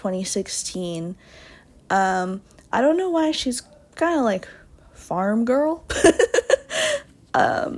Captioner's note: laughs